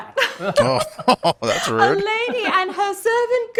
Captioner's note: chuckling